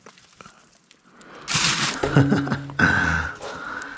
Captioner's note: laughs